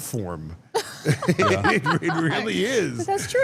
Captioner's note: laughs